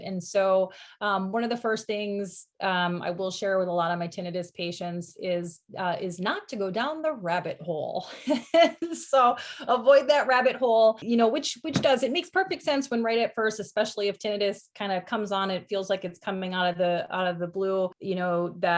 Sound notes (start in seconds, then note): 8.0 laughs